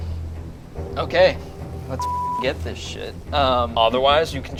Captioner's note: beep